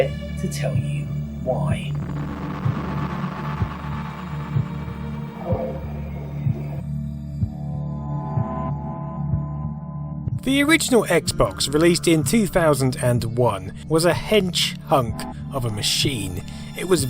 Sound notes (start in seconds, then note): 7.0 creepy dashboard sounds